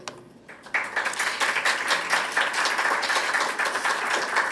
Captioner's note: applause